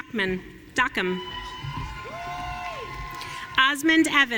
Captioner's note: audience cheering